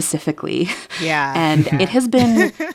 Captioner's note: laughter